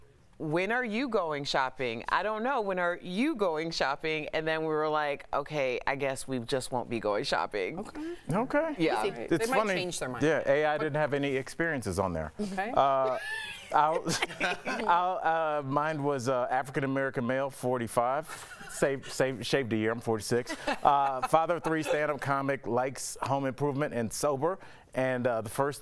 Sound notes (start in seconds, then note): 16.9 laughter